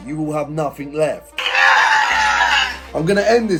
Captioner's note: screaming